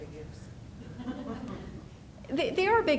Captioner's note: people laughing